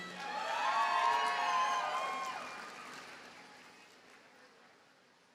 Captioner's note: audience cheers and applauds